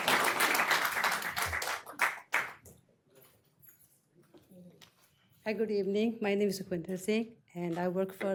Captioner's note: applause